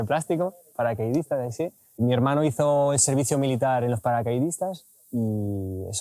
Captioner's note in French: en espagnol